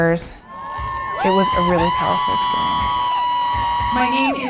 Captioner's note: cheering